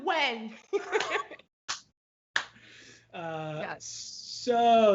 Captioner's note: both laugh